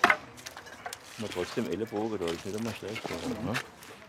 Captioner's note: they speak softly to each other